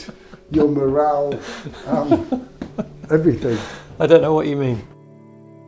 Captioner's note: laughter